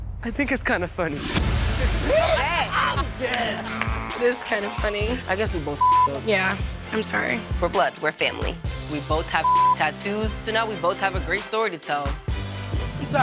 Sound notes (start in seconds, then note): 1.8 laughs